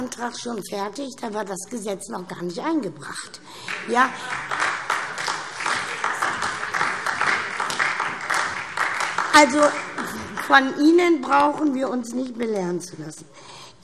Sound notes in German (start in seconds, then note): 3.6 Beifall SPD, vereinzelt BÜNDNIS 90/DIE GRÜNEN und DIE LINKE